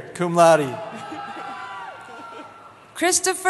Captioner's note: cheering